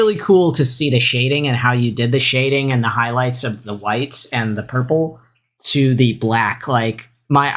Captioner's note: none